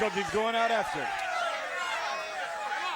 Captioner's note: audience chattering